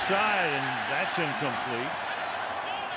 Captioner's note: cheering